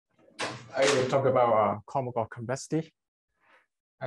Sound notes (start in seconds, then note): 0.4 banging